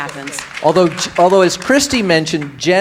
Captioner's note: audience applauding